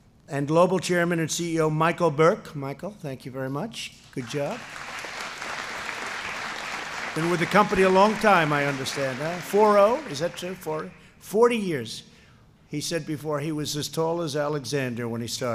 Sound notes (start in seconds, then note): 4.1 applause